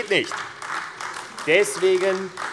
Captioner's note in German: Beifall AfD